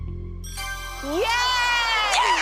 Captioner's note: ding